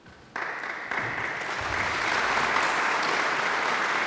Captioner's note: audience applauds